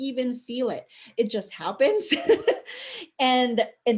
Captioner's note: chuckle